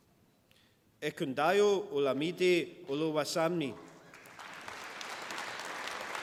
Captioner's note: applause